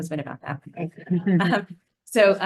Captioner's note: attendees laughing